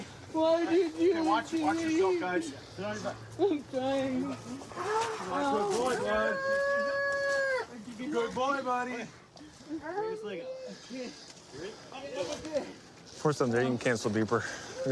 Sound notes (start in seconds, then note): 6.5 wails